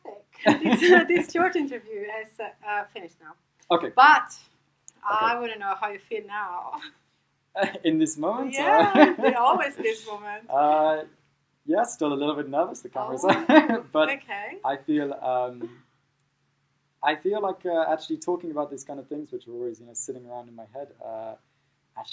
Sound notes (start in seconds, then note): 0.4 all laughing; 11.7 chuckling